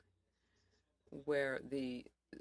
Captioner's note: speaking French